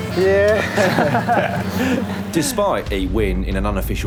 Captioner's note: laughter